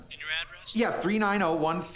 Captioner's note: on phone